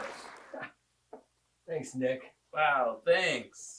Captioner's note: laughs